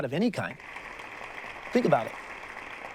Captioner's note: audience applauds